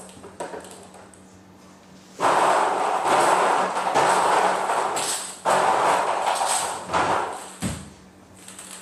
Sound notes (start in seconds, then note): 2.3 ball rustling